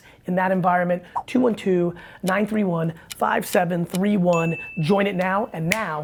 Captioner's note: bell rings